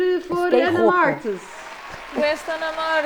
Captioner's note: claps